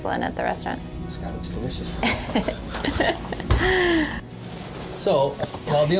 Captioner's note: laughs